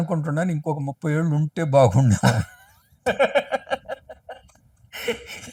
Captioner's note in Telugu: నవ్వు